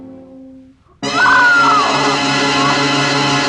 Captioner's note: barbra screams